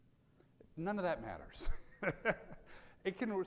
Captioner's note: laughs